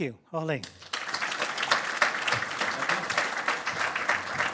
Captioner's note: audience applause